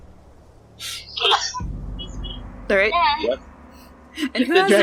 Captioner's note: sneezes